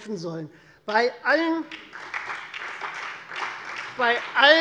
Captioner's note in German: Beifall Freie Demokraten, vereinzelt CDU, BÜNDNIS 90/DIE GRÜNEN und SPD